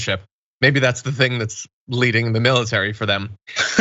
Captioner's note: laugh